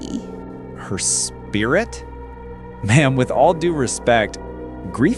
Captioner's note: disbelieving